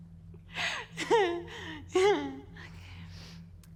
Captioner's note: chuckles; chuckles awkwardly